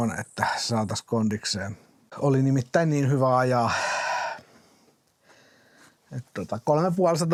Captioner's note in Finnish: huokaus